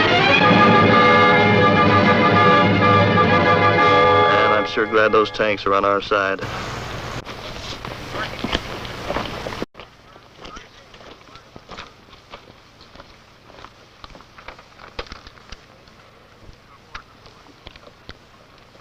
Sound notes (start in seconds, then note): 0.0 dramatic music; 7.1 footsteps